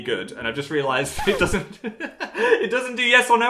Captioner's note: laughs